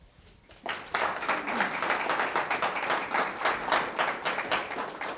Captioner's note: participants applauding